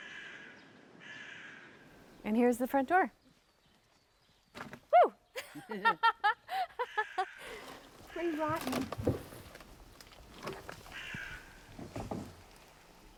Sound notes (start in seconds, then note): 5.3 laughter; 10.8 bird cawing